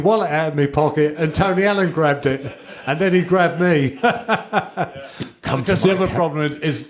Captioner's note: laughter